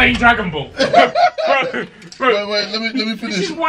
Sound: laughing

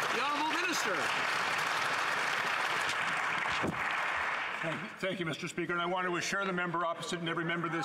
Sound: some Applause

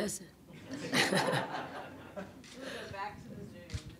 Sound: all chuckling

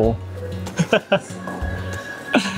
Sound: chuckles

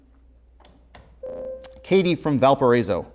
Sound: beeping

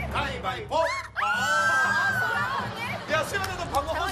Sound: screaming

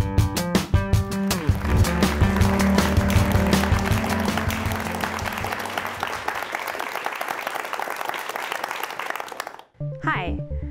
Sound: applause

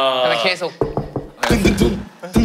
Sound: knock knock

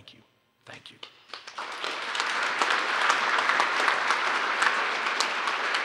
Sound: applause

